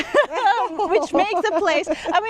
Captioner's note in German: lacht